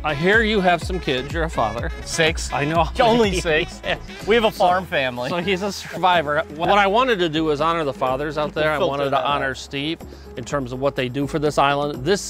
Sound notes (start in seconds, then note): 2.4 laughs